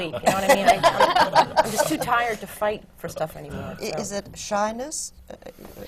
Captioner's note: laughter from the panel